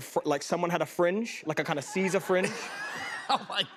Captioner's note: laughter